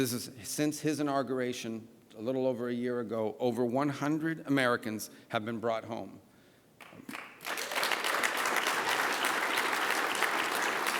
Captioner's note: applause